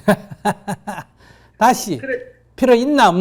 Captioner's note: laugher